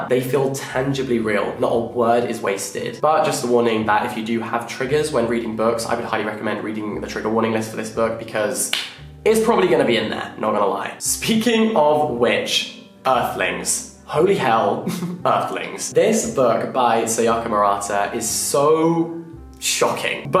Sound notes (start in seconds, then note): 14.9 laughing